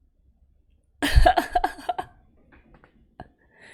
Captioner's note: laughs